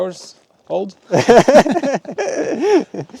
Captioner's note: both laughing